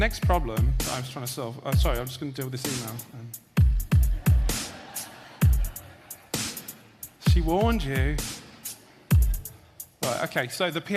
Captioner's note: audience laughter